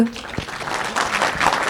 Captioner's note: applause